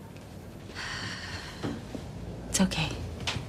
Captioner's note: sighs